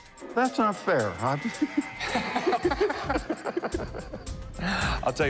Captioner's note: laughing